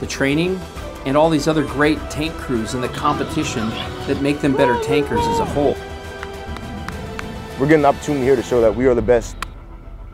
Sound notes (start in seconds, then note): 5.4 soldier shouting